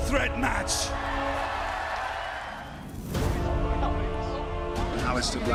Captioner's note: cheers and applause